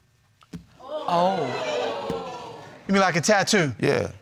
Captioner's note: audience exclaiming